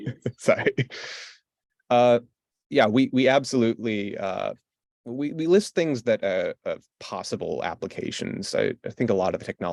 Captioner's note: laughs